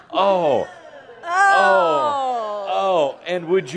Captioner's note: audience is saying “Eww”